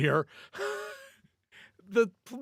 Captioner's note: laughs